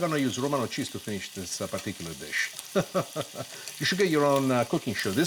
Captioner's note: laughs